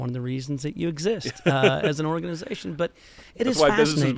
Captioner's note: laughter